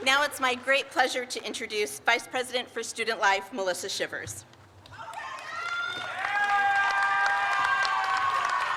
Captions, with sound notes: Now it's my great pleasure to introduce Vice President for Student Life, Melissa Shivers. (crowd applauds)